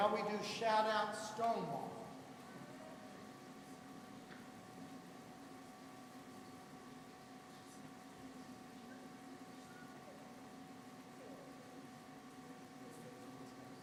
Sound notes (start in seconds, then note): none